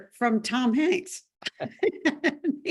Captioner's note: both laugh